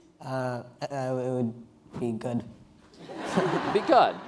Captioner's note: laughing